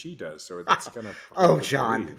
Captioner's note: laughing